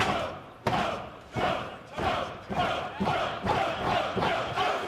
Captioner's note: fans chanting